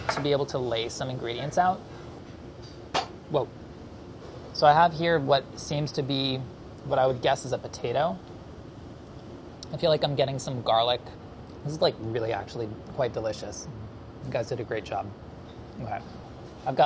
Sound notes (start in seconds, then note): 3.0 thumping